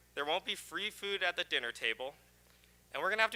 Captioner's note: none